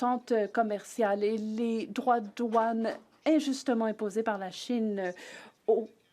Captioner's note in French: voix de l'interprète